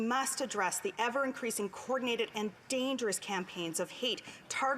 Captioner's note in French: voix de l'interprète